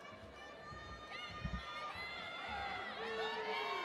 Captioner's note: attendees yelling